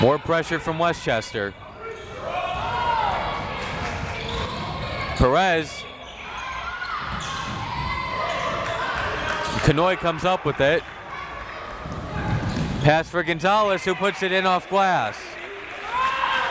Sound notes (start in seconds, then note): 1.3 crowd members shouting